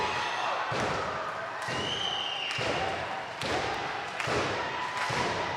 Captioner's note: audience applauding and cheering